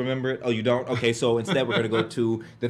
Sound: laughs

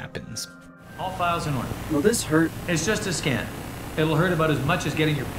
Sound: in-game audio

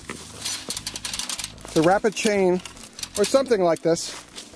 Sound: coals crunch on metal; shovel crunches coals; chain clanks against metal

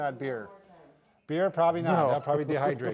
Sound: laughs

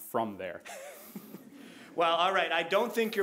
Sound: all chuckling

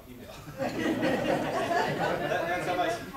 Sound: audience laughs

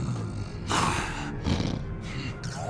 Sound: growls

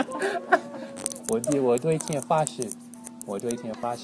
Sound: mandarin

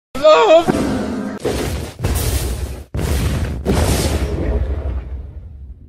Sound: widespread explosions

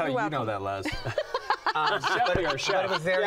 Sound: laughing

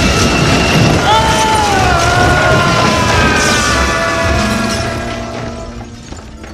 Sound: death scream

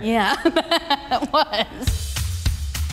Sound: laughs; upbeat music

